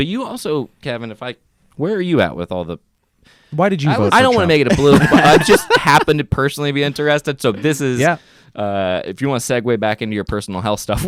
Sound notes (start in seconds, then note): 4.0 laughing